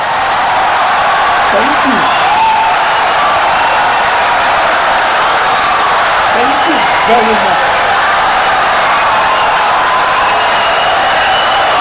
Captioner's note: wild applause and cheering for 17 seconds